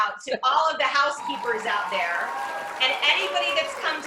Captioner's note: cheers